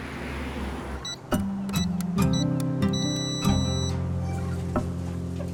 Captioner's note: keypad beeps